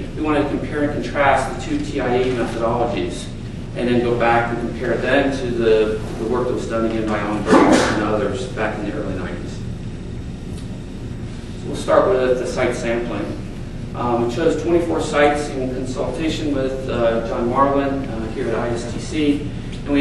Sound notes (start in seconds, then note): 7.4 attendee loudly sneezing